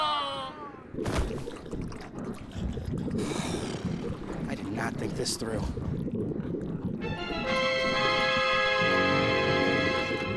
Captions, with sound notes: (blows breath) - I did not think this through. (ominous music)